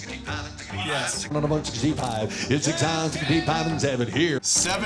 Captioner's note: rapid auctioneering